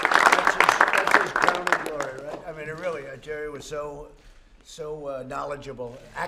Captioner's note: applause